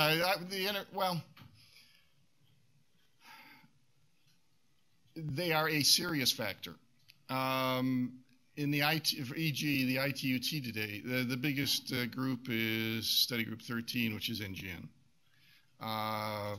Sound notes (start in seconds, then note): 3.1 sighs